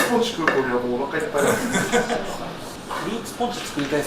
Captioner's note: laughs